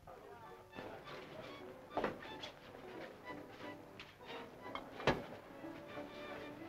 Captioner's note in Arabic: الناس يتحادثون; موسيقى مبهجة